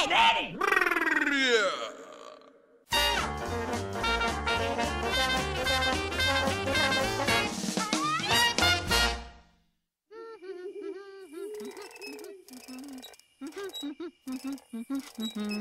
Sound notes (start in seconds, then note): 10.6 humming